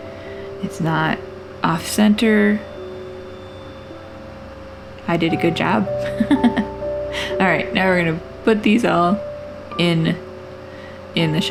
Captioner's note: laugh